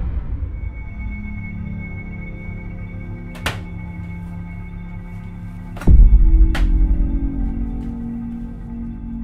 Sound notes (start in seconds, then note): 0.1 tense ominous music; 3.3 cabinets opening